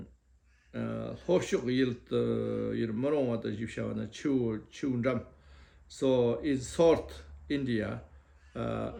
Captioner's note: tibetan